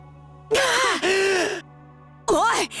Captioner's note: wheezing